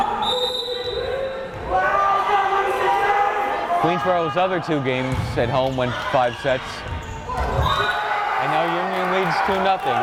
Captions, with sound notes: (whistle blares) (crowd cheering) Queensborough's other two games at home went five sets. (crowd cheering) And now Union leads 2-0.